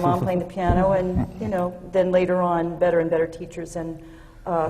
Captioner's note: laughter from the panel